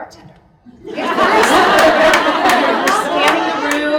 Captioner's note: audience laughs